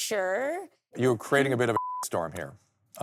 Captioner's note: beep